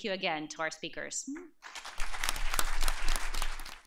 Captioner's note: applause